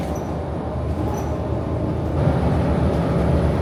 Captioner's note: bus humming